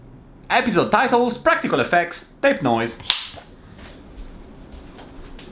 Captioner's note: clapperboard sound